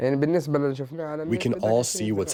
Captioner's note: through translator